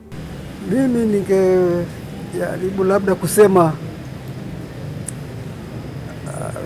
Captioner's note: reverend speaking in foreign language